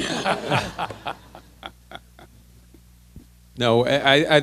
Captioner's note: laughter